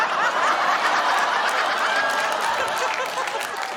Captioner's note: laughter; applause